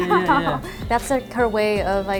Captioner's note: laughs